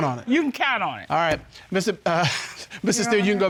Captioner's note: chuckles